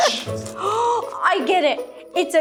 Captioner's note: gasping